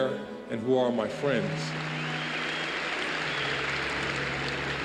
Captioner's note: cheers and applause